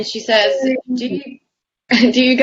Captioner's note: laughs